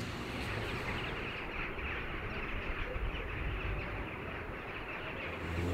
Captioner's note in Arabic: تغريد العصافير